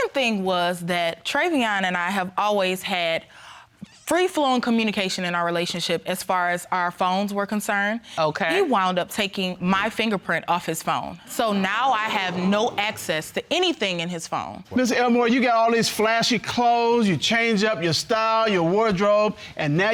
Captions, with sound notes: The second thing was that Trevion and I have always had free-flowing communication in our relationship as far as our phones were concerned. He wound taking my fingerprint off his phone. (AUDIENCE EXCLAIMING) So now, I have no access to anything in his phone. Listen, Elmore, you get all these flashy clothes, you change up your style, your wardrobe,